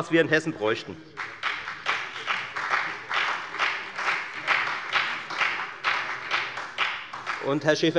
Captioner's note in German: Beifall bei der FDP und bei Abgeordneten der SPD